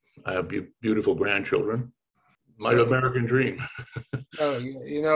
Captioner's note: laughs